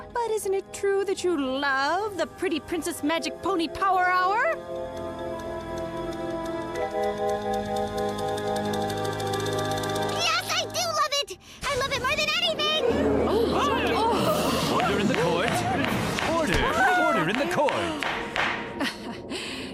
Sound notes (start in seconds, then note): 14.0 audience grows louder in shock; 18.7 Mrs. Botsford chuckles